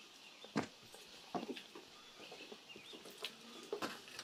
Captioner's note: footsteps shuffle